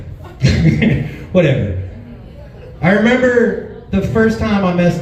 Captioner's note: chuckles